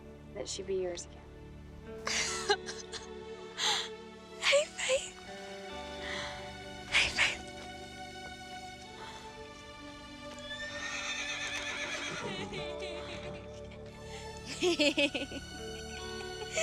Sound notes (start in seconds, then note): 10.4 horse whinnying; 11.6 Grace laughing